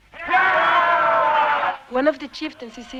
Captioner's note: men cheering